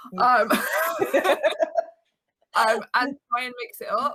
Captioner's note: both laughing